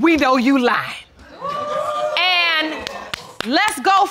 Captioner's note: audience exclaiming